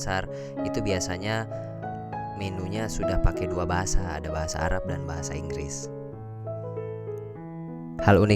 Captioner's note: arabic and English